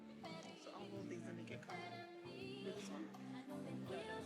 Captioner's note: speaks faintly